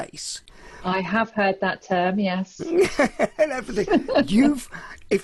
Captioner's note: laughing